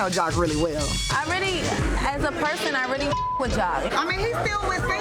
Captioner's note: beep